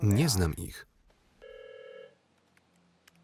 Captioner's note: phone rings